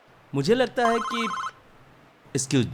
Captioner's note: phone ringing